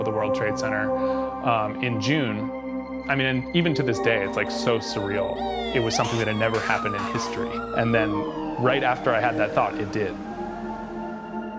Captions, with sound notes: of the World Trade Center in June. I mean, even to this day, it's like so surreal. [sirens blaring] It was something that had never happened in history. And then right after I had that thought, it did.